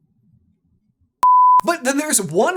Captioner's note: station end bleep